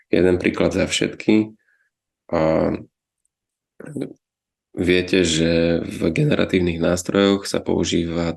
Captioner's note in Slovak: odkašľanie